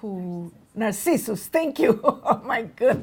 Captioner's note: laughs